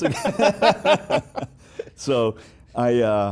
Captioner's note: laughs